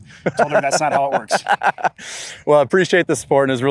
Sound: laughing

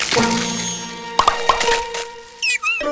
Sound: popping; chirping

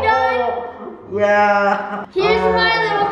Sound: laughs

